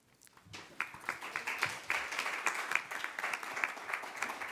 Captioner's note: applause